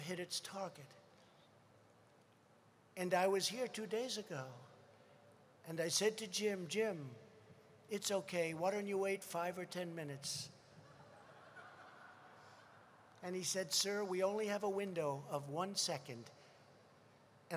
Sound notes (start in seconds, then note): 10.8 laughter